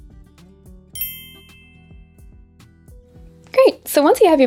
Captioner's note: bell chiming